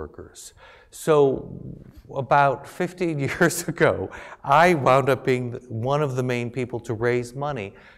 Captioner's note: laugh